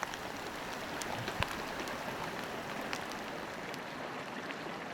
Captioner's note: rushing water